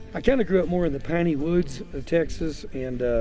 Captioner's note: none